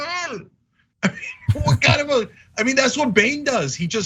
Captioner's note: laugh